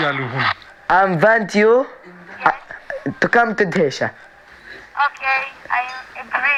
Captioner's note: on phone